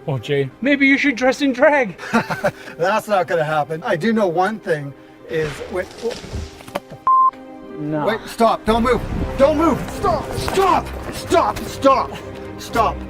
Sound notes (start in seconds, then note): 5.4 choques de ramas de árboles; 7.0 pitidos de filmación